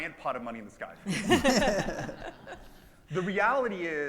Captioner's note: audience laughs